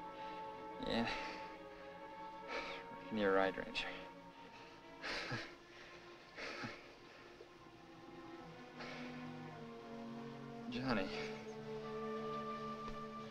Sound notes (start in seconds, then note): 4.0 breathing heavily